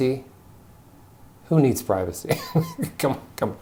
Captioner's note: chuckles